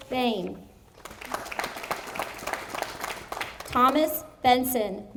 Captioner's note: audience applauding